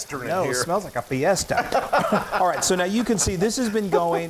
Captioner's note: laughter